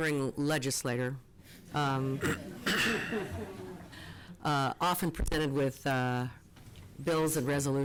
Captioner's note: laughter